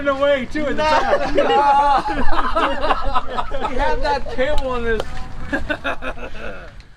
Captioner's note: laughing and teasing ensues